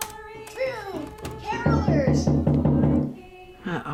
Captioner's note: knocking on door